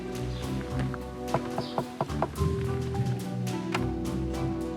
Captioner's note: knock on the door